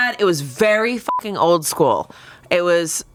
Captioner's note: beep